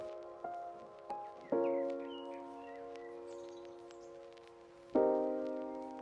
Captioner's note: gentle music; birds chirping